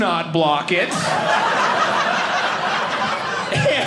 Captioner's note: audience laughing